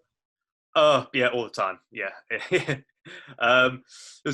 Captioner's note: laughs